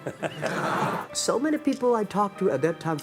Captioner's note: audience laughs